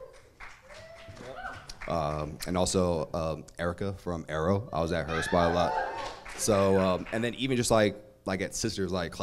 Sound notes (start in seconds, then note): 0.0 applauds and cheers from crowd; 5.0 crowd cheers